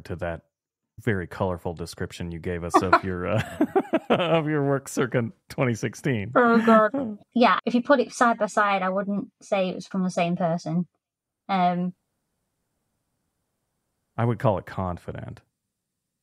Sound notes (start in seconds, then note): 2.7 laughter